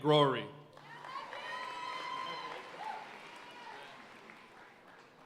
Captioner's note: audience cheering and applauding